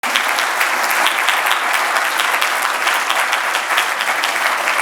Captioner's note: audience applauds